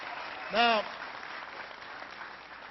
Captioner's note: applause